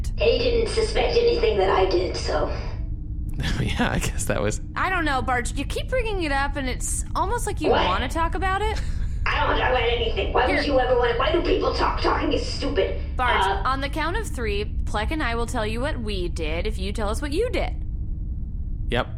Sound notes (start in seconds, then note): 10.4 stammers